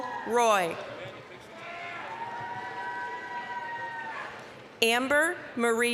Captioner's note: applause, cheering